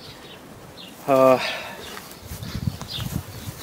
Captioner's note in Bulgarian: Въздишка